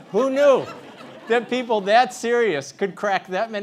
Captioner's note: laugh